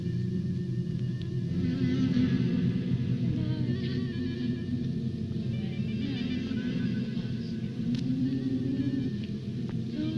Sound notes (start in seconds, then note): 5.0 woman drunken humming